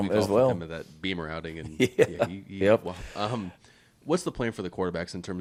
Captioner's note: Shane laughing